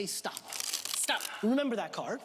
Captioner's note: cards dribbling